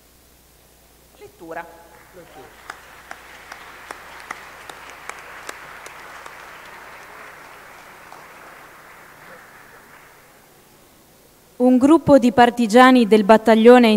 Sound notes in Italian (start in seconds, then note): 1.6 Applauso